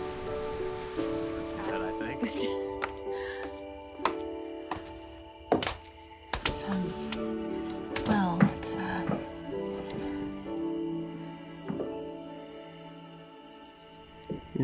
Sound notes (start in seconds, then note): 2.0 chattering; 4.6 footsteps